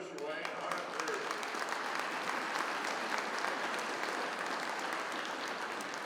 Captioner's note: attendees applauding